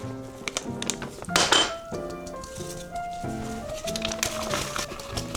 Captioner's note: tap tap tap tap